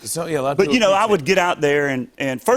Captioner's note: none